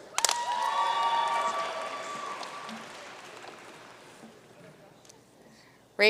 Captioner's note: audience cheering and applauding